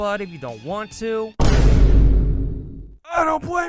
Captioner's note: Vine Boom